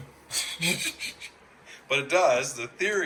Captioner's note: laughing